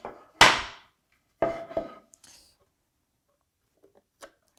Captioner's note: chisel scraping; plank on desk clacking